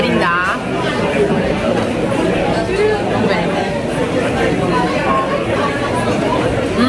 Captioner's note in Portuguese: ambiência de restaurante